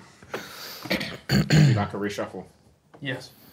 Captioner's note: group quietly laughing; clears throat